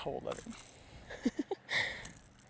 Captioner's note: laughter